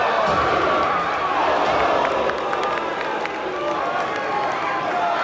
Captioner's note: crowd groans; indistinct crowd chatter